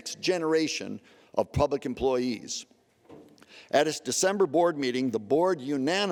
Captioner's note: none